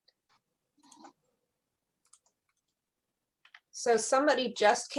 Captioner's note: keyboard keys clicking